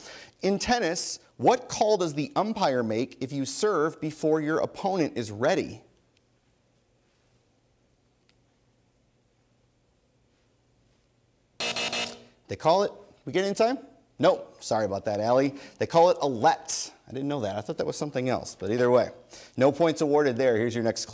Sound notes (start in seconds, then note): 11.6 buzzer sounds